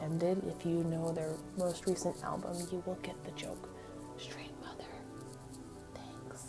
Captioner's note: whispers